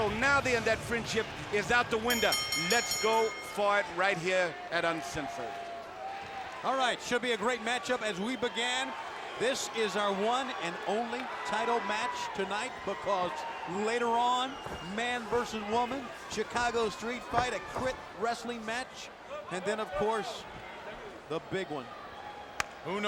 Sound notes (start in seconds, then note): 2.0 bell ringing